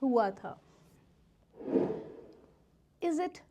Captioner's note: slide wooshes